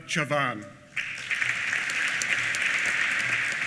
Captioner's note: applause